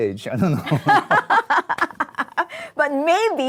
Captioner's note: laughter